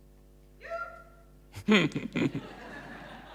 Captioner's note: laughing